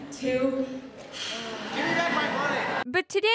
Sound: sigh

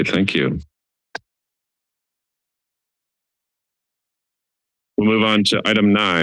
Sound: silence

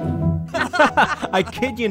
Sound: upbeat bouncy music; group laughing

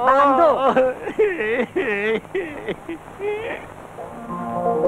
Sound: crying

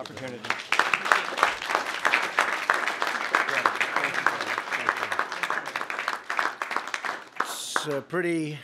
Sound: applause

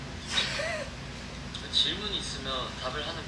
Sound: A shy laugh

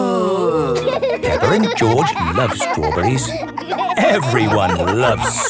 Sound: groaning; laughing

